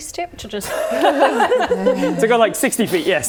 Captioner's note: all laughing